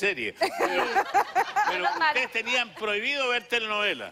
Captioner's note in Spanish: Risas